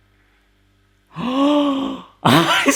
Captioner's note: gasps; laughs